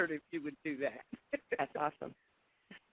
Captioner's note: laughs